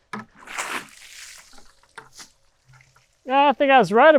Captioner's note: water sloshing